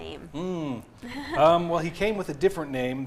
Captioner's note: laughs